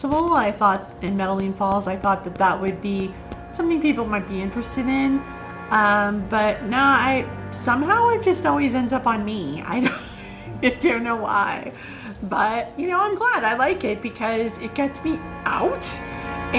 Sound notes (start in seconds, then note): 9.8 laughs